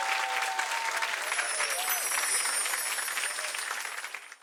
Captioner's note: chimes ringing